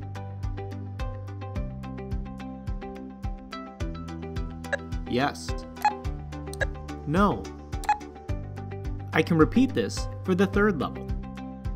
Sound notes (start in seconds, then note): 0.1 upbeat music; 3.5 beep; 5.1 beeps; 11.5 upbeat music